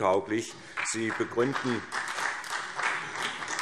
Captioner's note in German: Beifall SPD, vereinzelt BÜNDNIS 90/DIE GRÜNEN und DIE LINKE